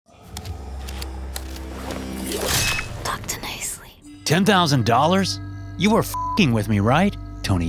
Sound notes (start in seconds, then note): 0.2 suspenseful music; 1.4 ax slashing; 1.8 splatters; 6.1 beep